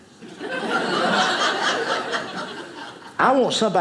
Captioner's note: audience laughing